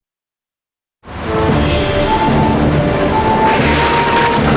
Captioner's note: waves Crashing; lightning Crackles; wind Howling